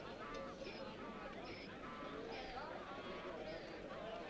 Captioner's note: townsfolk chattering